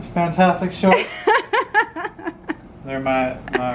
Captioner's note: laughing